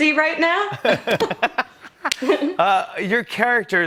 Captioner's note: laughter